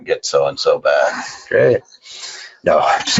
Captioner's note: laughing